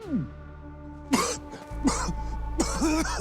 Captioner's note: coughing